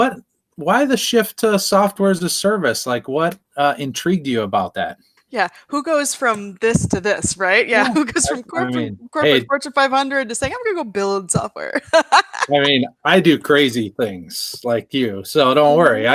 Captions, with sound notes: why the shift to software as a service? What intrigued you about that? -Who goes from this to this, right? Who goes from corporate Fortune 500 to say, "I’m going to go build software." [laughs] -I do crazy things like you, so don’t worry.